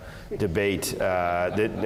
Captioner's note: laugh